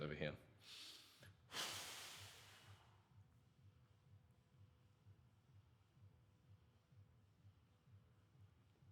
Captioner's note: exhales